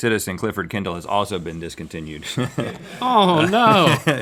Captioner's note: chuckles